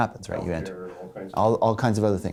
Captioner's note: voiceover